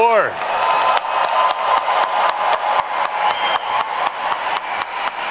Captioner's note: attendees cheer and clap